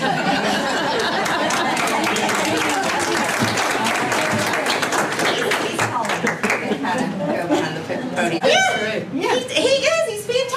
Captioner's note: applause